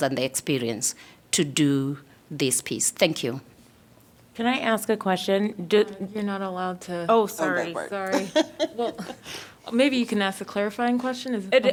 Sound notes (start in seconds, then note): 8.0 laughter